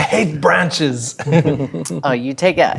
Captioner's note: laughing